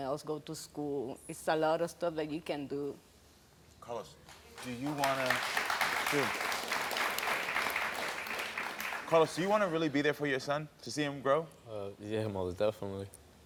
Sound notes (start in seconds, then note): 4.2 audience claps